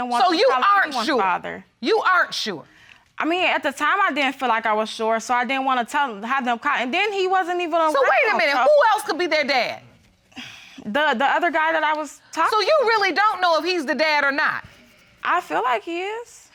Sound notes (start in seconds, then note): 10.3 sighs